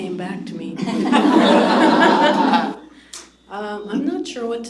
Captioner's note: laughter